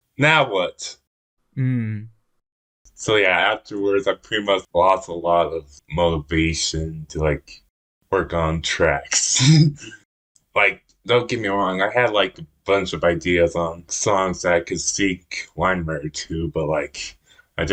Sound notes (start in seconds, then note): 9.9 laughs